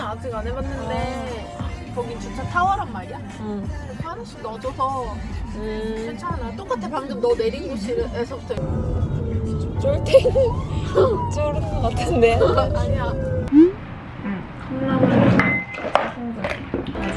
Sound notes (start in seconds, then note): 8.6 siren ringing next to us